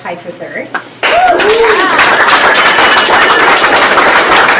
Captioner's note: audience applauds